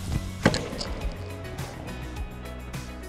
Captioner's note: notification bell ringing; hitting tennis ball; gentle instrumental music